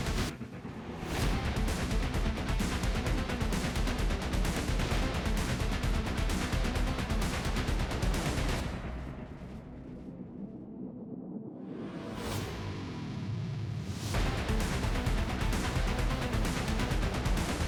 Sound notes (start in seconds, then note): 5.5 edgy rock music continues; 9.6 plane roaring; 14.1 edgy rock music continues